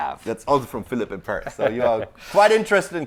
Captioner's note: laughing